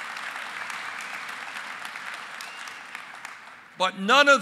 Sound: applause

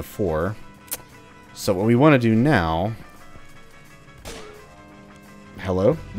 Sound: Manslayer Shotgun blast

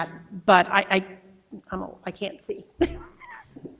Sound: laughs

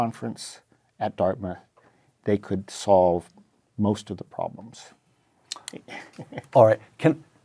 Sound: laugh

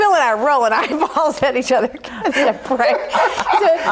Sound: group laughs

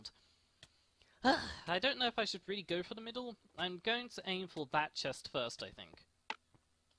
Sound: sigh

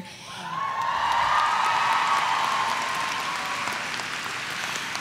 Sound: crowd cheering

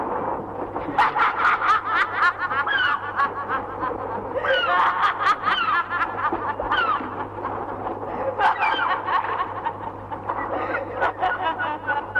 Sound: laughs

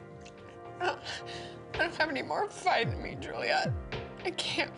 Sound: sad music; sobs

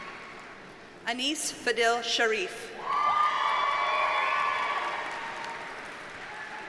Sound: audience cheers and applauds

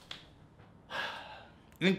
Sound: sighs

